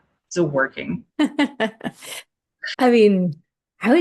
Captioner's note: laughs